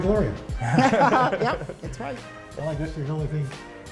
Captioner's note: laughter